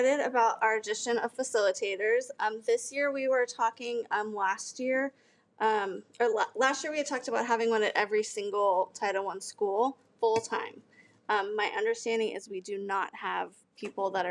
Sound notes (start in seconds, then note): none